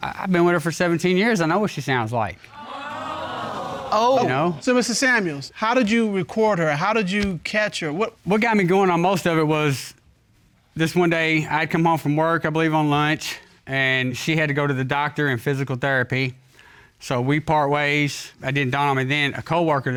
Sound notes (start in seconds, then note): 2.5 audience exclaims